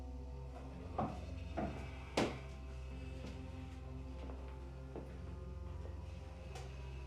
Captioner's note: crickets chirping; tense music; footsteps approaching